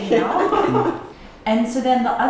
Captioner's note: laughing